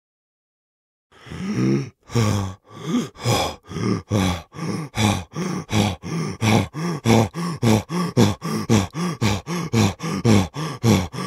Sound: sound of breathing

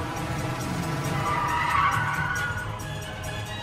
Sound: squealing tires

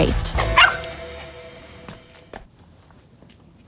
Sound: dog barks

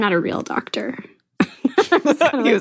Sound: both laugh

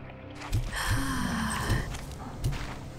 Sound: sigh

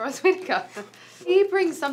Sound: laughs

